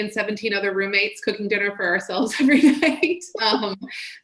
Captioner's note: chuckles